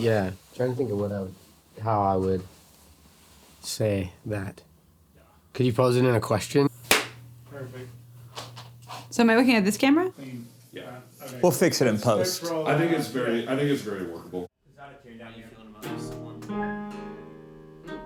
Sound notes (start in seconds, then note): 6.9 clapping; 15.7 soft guitar music